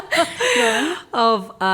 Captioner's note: laughter